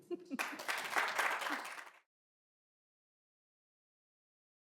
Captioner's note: applause